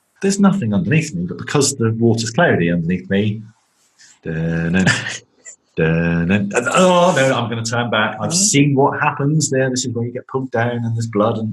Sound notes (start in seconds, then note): 4.2 humming theme song; 4.2 laughing